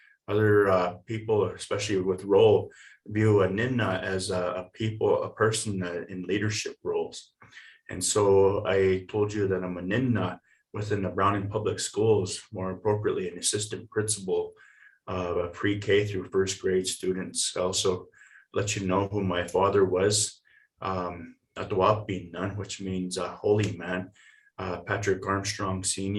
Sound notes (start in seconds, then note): 21.2 foreign language